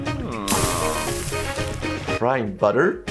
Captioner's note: butter sizzling